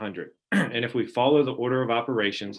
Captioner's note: clearing throat